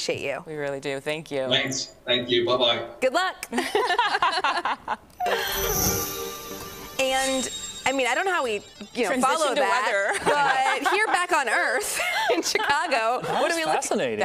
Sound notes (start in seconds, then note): 10.0 laughter